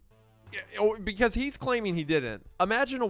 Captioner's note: stammers